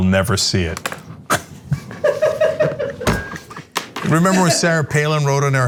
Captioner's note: laugh